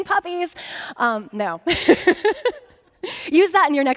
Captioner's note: laughing